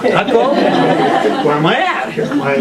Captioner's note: laughter